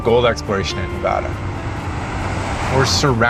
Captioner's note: truck engine rumbles